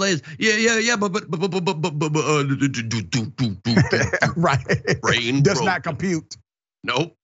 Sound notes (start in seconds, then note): 3.4 laugh